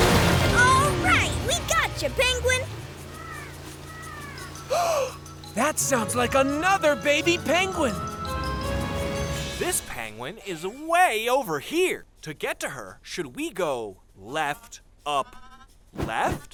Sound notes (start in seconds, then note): 4.6 gasps